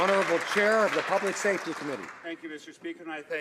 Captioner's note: some Applause